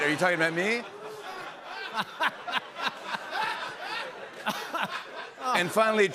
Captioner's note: laughter